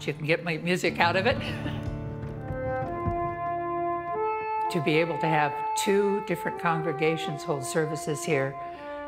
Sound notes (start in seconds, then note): 1.3 chuckles